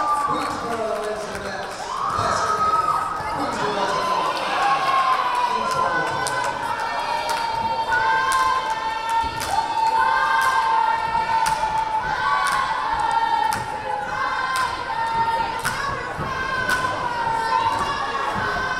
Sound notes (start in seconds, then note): 4.4 crowd applauding; 7.0 crowd